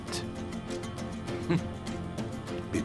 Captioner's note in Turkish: Bahadır gülme sesi